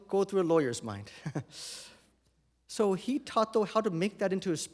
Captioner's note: chuckles